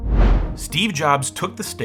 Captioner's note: whooshes